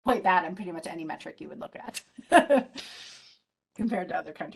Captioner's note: laughs